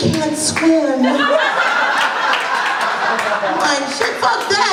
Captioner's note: laughter